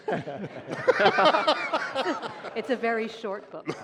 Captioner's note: laughter